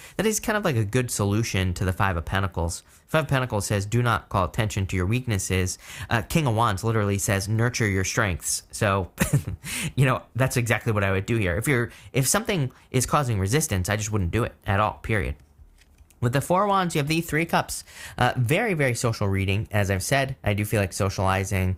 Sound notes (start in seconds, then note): 9.1 chuckles